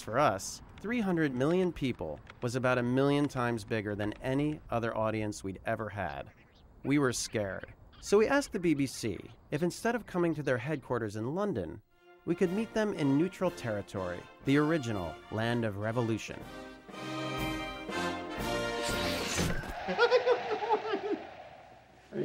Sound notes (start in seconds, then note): 19.6 laughing; 19.7 cheers and applause